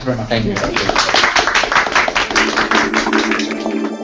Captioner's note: applause